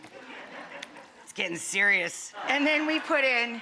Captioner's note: audience laughing